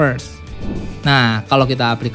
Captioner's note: transition sound